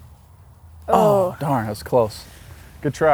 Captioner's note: sighs